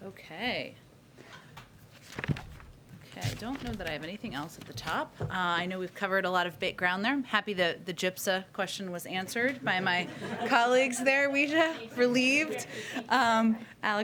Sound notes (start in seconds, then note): 9.6 laughter